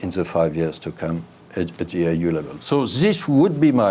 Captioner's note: speaks a foreign language